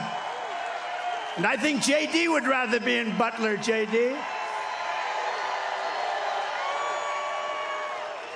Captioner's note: cheering